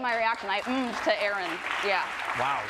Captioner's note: group applauding